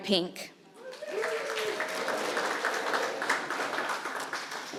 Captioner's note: applause